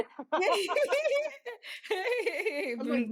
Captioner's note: laughing